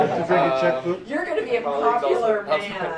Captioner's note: laughter